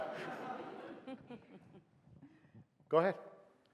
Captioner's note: audience laughs